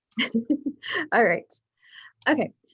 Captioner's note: laughing